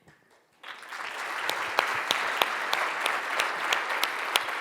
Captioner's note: audience applauds